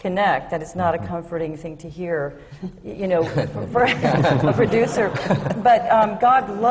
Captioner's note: laughter